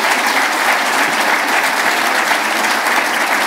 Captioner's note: applause